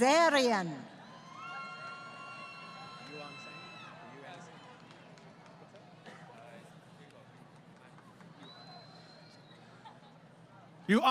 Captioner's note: crowd Cheering